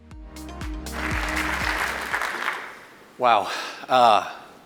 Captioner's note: soft upbeat music; audience clapping